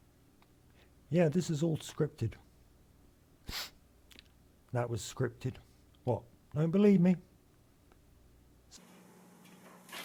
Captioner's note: sniff